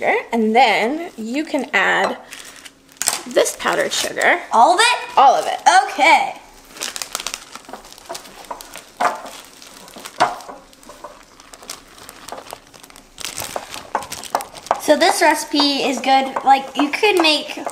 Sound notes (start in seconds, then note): 7.2 plastic crinkling